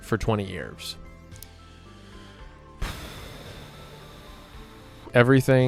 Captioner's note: inhales; exhales slowly